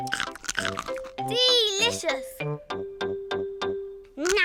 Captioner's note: crunches